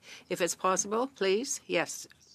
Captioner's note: speaking in French